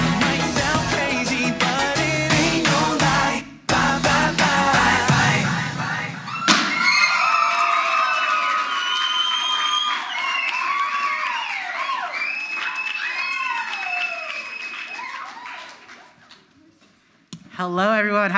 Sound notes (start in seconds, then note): 6.6 cannon explodes; 6.6 crowd screams; 9.3 audience applauds